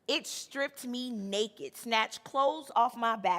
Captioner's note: none